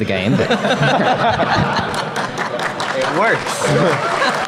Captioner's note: audience cheers